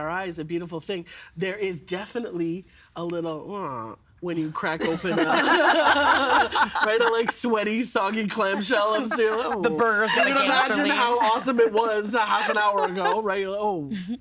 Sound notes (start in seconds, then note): 4.1 groaning; 6.0 all laughing